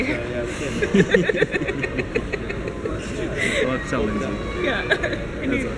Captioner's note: both laugh like 12 year olds